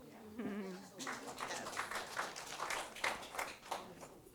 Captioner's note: applause